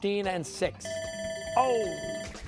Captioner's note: bell rings